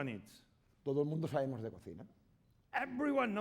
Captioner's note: speaking spanish